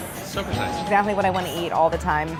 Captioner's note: bell dinging